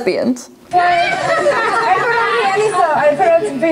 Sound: contestants laughing

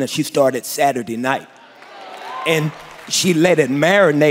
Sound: applause

